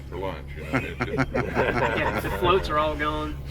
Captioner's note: laughing